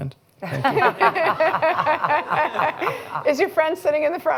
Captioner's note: laughter